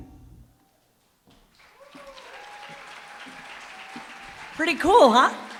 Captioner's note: applause, cheering